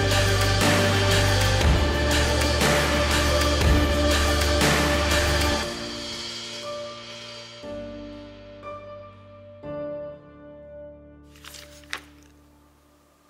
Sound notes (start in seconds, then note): none